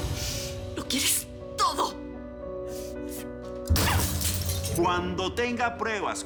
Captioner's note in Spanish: Estrépito